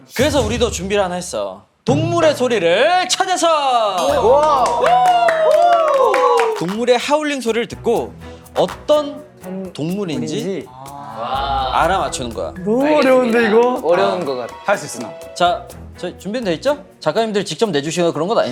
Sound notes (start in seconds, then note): 4.0 applause